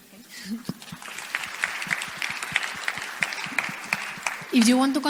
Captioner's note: audience applause